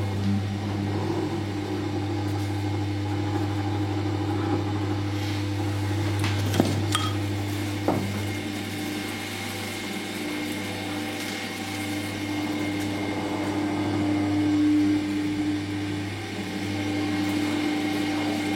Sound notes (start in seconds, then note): 6.9 clinking; 16.6 steady whirring